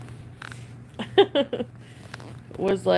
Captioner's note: laughs